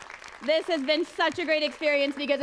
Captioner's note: applause